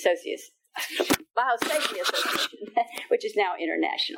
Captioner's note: attendees laughing